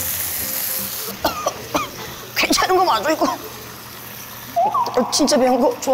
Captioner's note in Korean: 콜록콜록